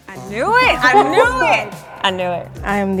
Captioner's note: group sighs